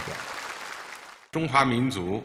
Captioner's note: audience applauding; speaking foreign language